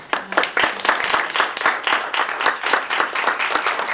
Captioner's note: applause